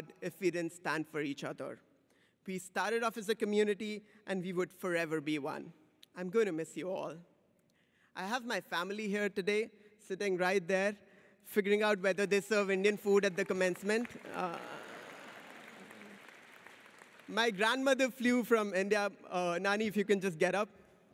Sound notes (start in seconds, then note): 14.2 audience cheers